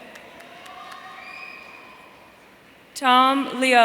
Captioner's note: audience cheering